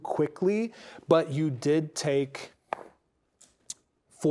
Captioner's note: dice rolling